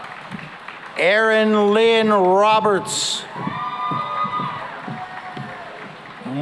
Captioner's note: cheering and applause